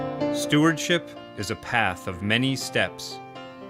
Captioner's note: voice-over